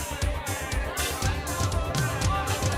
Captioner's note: crowd chatter